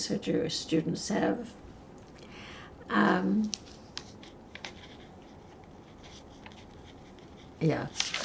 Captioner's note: pauses 6 seconds